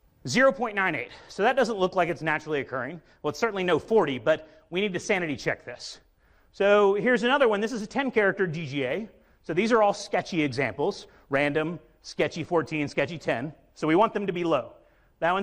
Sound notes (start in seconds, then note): none